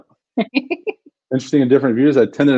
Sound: laughs

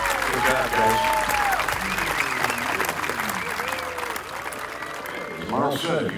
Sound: crowd cheering

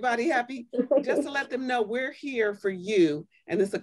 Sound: laughter

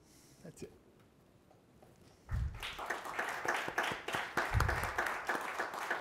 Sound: audience applauding

